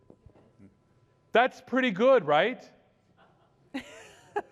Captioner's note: laughter